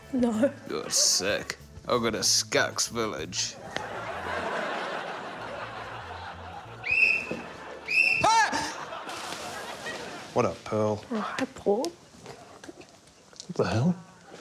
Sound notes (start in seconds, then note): 3.5 laughter; 6.8 whistle blows; 9.3 laughter; 14.0 laughter